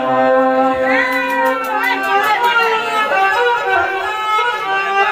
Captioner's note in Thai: ปรบมือ